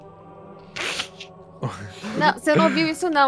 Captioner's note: Calango and Luis laugh